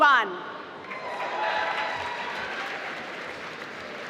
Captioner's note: applause